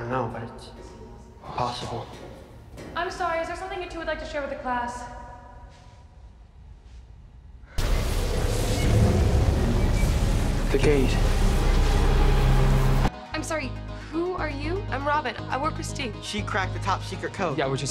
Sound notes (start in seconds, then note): 7.8 winds growling